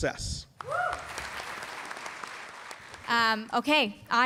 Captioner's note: applause